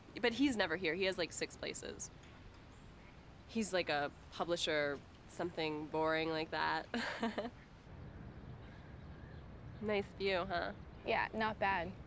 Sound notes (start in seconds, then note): 6.9 chuckling